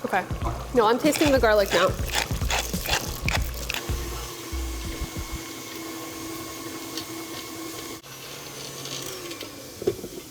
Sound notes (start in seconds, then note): 1.0 grinding; 3.8 whirring